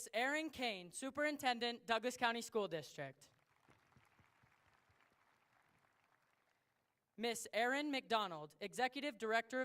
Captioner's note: applause